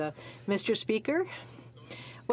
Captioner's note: speaking French